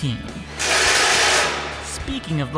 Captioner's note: drilling